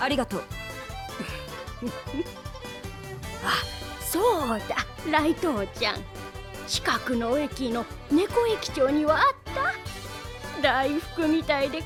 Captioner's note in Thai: หัวเราะ